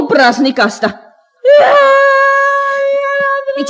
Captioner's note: the girl starts crying